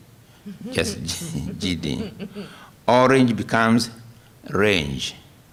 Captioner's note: laughter